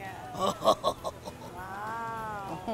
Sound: laughs

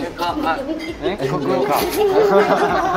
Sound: just laughing

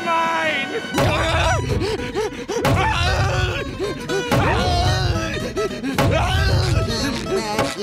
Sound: groaning, panting

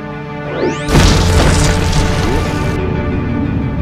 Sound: flying upward, hitting roof

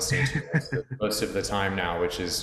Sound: chuckles

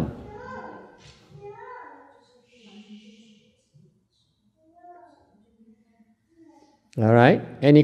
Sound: silence

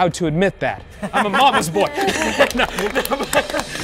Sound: participants applauding; dramatic introduction music; participants laughing

